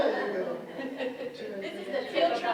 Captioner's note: speakers laughing